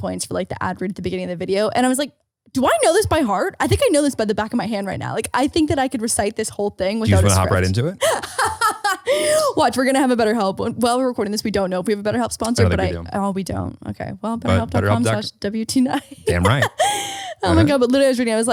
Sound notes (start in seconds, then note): 8.0 laughing